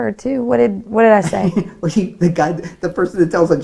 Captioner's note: laughs